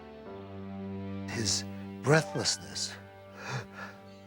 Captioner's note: panting